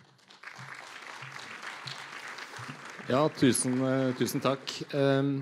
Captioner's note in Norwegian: Applaus